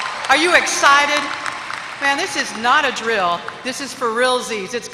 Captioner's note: applause